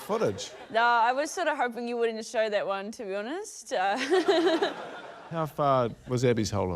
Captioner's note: laughs